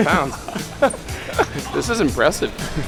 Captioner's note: laughing